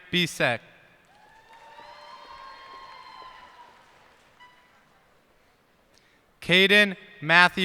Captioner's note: cheers and applause